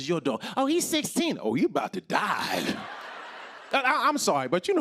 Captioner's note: laughter